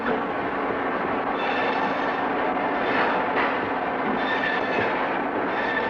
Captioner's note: grinding and cutting noises